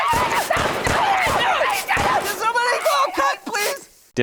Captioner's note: gun blasting; screams; chaotic screams